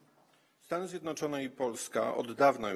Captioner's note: speaking polish